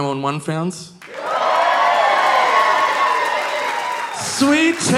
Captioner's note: audience applauding; audience cheering